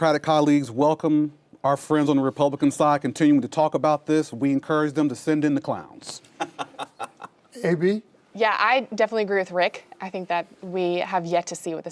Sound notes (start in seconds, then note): 6.3 laughter